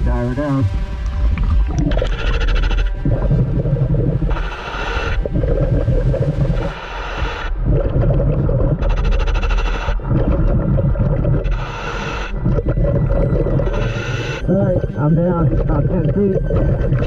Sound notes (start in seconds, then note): 1.1 ominous music continues; 1.7 mouthpiece hissing; 16.6 mouthpiece hissing; 16.6 ominous music continues